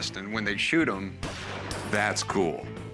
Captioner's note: gunshot